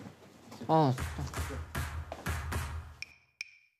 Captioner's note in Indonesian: Gugup